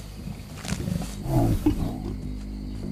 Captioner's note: growls